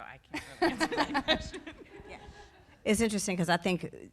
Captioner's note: people laughing